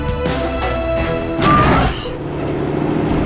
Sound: roaring

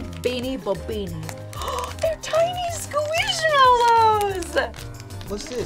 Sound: gasps

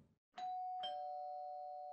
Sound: ding dong

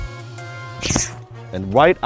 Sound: swoosh

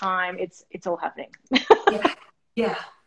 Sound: laughing

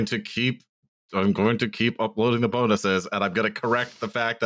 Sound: with gritted teeth

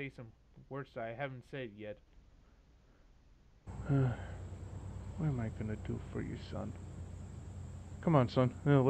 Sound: sighs

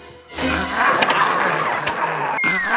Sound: everybody cheers; sounds upset

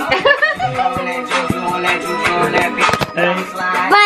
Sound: laughter

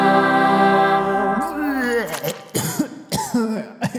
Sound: vomits

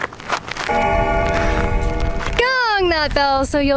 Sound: gong sounding

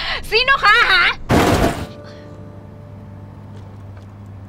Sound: crashing sound

